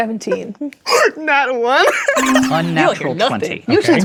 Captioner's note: laughing; disappointed beeping sound